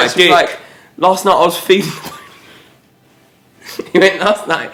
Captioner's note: laughs